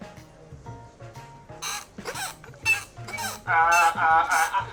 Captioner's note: squeak, squeak